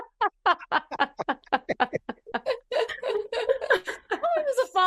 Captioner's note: laughing